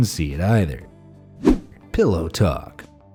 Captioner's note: air whooshing